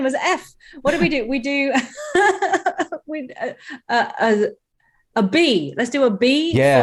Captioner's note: laughter